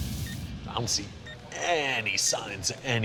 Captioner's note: timer beeps